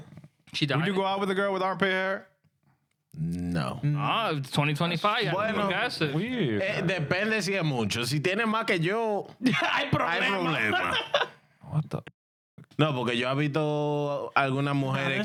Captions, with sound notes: She died? Would you go out with a girl with armpit hair? No. Oh, 2025, I don't think that's it. (Speaking In Spanish) (Laughing) What the (Speaking In Spanish)